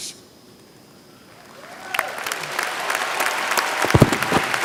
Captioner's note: applause